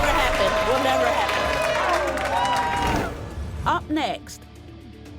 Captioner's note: cheering